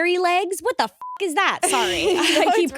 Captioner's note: beep